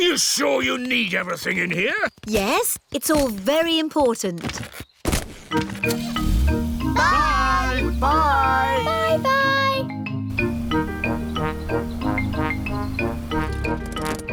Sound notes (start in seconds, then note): none